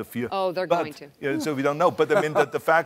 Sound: laughing

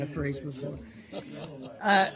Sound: laughter

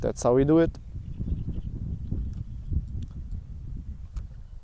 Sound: wind blowing

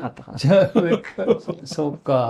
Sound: laughs

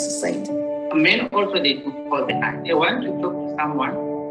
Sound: murmurs

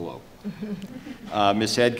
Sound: laughing

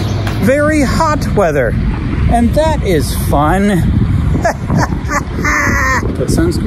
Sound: laughs

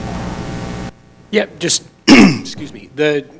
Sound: coughs

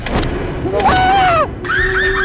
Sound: scream

